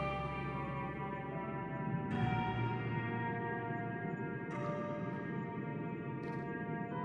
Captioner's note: mountain wind blows